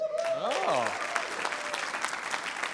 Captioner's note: applause